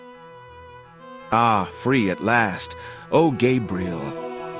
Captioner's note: different voice